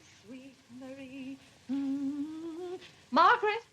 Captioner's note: hums